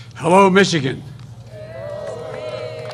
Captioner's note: applause